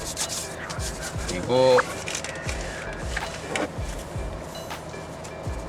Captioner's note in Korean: 뒤적